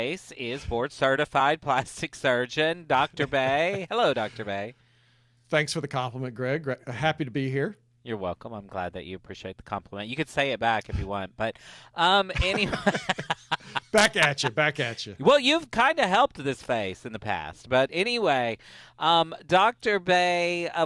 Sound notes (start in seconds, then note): 12.3 laughter